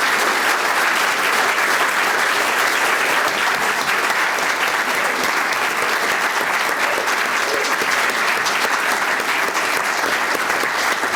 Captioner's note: applause